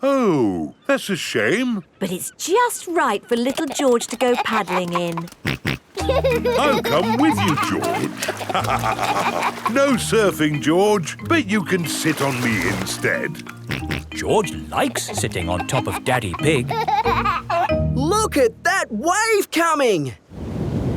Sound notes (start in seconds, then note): 5.9 snorts and laughs; 8.8 both laugh; 13.9 snorts; 17.1 giggling